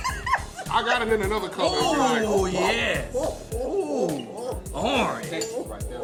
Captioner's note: laughing; laughing